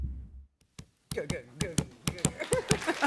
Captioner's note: imitating heartbeat